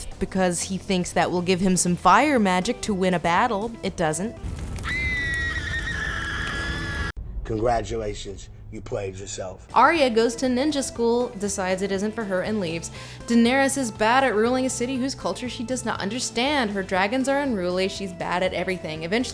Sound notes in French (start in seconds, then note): 4.8 Cris agonisants de sa fille sur le bûcher